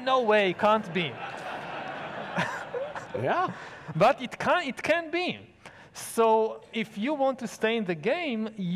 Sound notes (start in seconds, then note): 0.3 audience loudly laughing